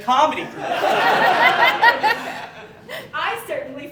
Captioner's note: audience Laughing